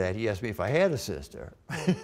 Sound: laughter

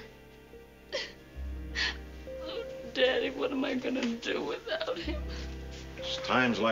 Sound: sobs

